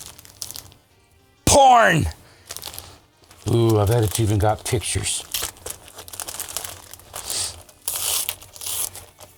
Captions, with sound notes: Porn! Ooh, I bet it's even got pictures. (paper rustling)